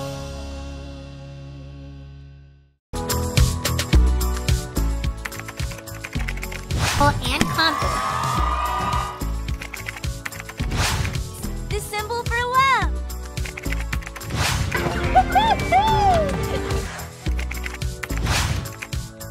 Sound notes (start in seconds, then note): 3.1 upbeat music; 7.3 audience cheers; 9.5 keyboard keys tapping; 13.4 keyboard keys tapping; 17.3 keys tapping